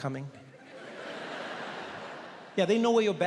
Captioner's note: audience laughing